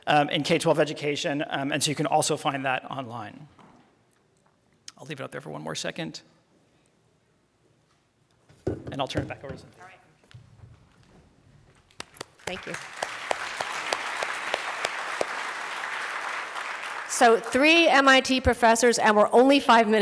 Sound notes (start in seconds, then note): 13.5 applause